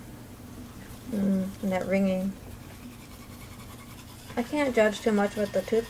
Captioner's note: sound of someone brushing their teeth